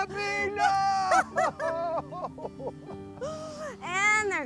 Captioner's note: laughing